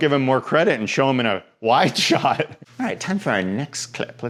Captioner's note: laughs